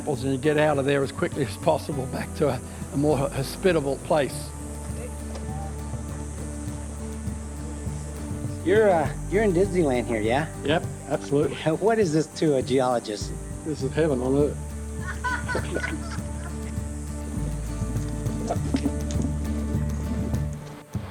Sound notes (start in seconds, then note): 15.0 chuckles